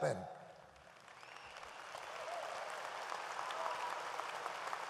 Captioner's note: audience applauds